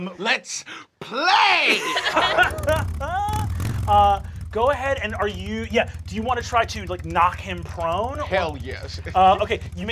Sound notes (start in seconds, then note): 2.0 motorcycle revs engine